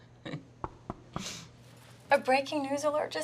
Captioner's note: chuckles; knuckles tapping